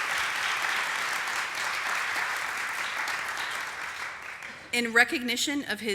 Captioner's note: applause